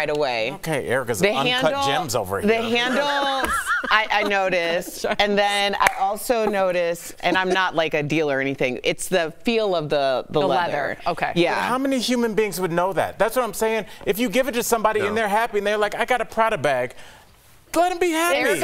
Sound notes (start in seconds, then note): 6.3 laughter